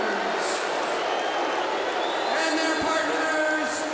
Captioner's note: crowd cheering